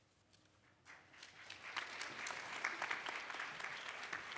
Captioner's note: audience applause